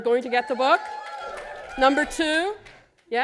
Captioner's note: cheers